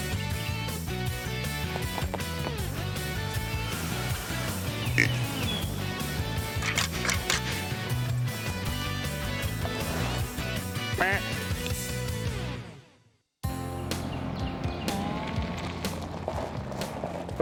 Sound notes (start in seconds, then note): 0.1 soft rock music; 5.6 animal calling; 13.4 soft country music